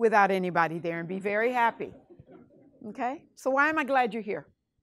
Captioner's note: class laughs